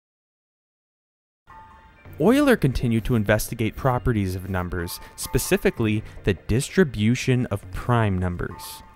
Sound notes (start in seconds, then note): 2.0 voiceover